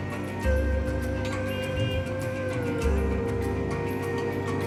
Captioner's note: car Horn Honking